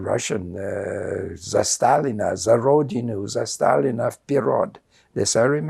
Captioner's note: russian